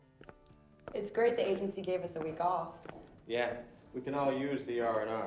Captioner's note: none